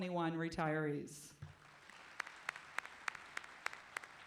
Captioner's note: clapping